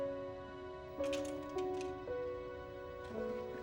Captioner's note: hangers clattering